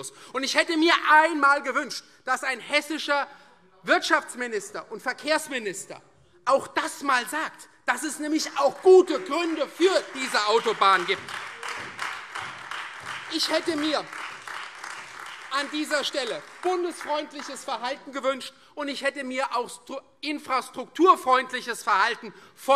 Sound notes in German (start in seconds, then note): 10.8 Beifall Freie Demokraten, vereinzelt SPD und AfD